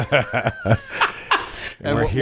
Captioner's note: everyone laughs